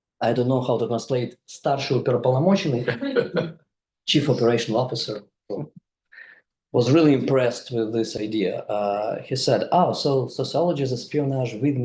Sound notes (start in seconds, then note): 1.7 speaks in foreign language; 2.8 audience member laughs